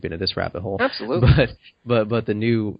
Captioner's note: affirms